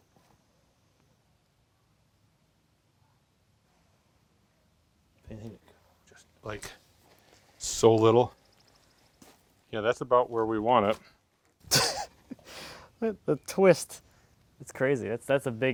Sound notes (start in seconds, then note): 11.6 laughing